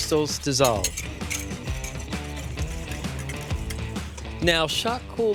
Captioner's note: whisking